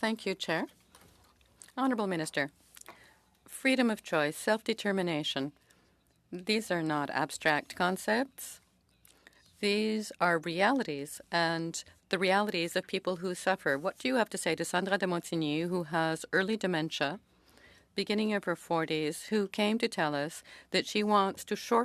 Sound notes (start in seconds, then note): 1.4 speaking French